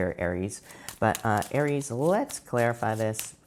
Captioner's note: cards shuffling